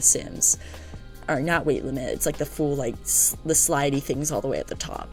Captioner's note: stutter